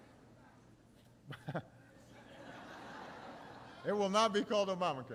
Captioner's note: laughter